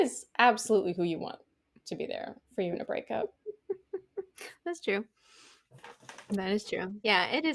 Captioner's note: laughter